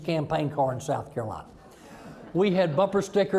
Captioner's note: audience chuckling